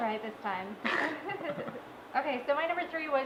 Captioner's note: laughing